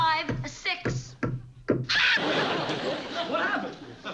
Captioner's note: scream